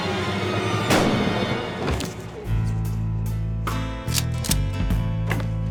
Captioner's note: gunshot; gun cocks